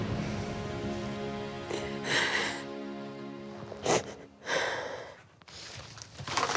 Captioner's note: sniffling